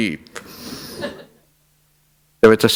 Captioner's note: laughter